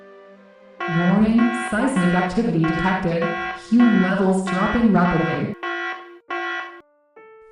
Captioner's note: alarm blaring